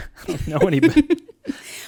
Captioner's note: laughs